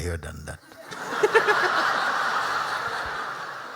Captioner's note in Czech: Smích